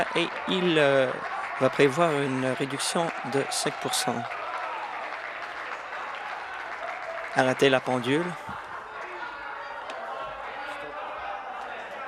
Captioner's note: applause